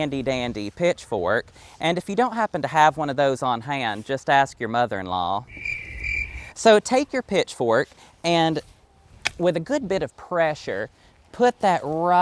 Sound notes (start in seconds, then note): 5.4 crickets